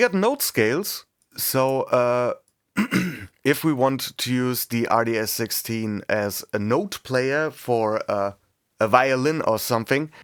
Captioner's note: clears throat